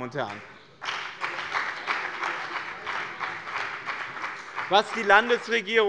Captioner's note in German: Beifall bei dem BÜNDNIS 90/DIE GRÜNEN und der CDU